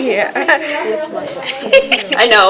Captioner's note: laughter